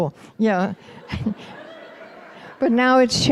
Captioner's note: laughter